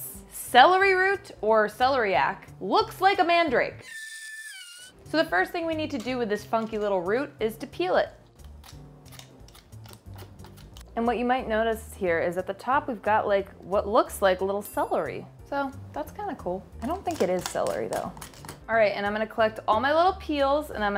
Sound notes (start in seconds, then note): 3.8 mandrake squeals; 8.3 knife scratching